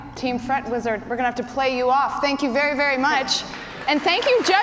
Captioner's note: cheers and applause